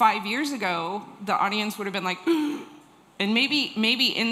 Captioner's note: gasp